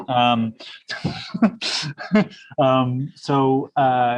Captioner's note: laughs